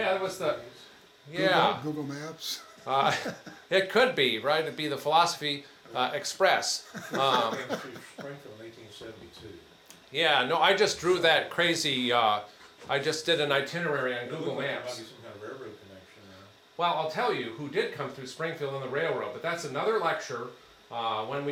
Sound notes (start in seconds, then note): 1.0 laughs; 2.5 laughs; 6.8 attendee laughs